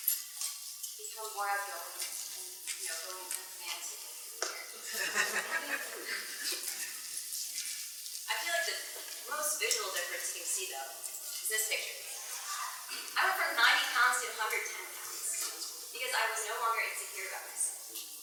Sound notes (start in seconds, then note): 4.7 laughs